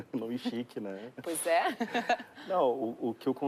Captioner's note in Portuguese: Risos